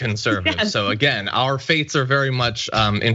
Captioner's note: laugh